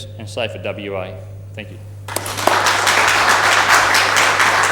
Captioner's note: applause